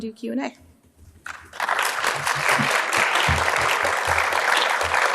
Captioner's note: audience claps